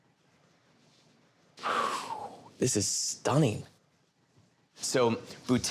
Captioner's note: exhales